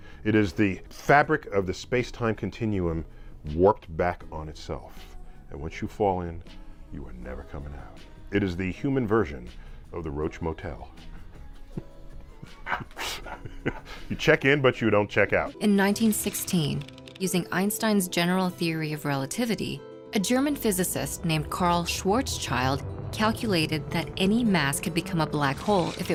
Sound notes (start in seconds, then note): 12.3 chuckling in astrophysics; 13.5 cackling